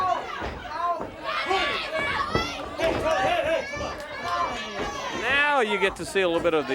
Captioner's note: crowd cheers